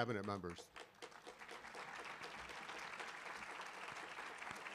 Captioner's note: audience applauding